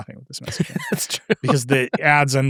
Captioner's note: laughing